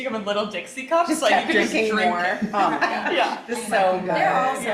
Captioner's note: all laughing